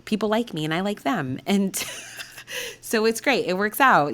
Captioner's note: laughing